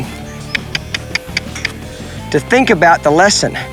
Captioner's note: mouth clicking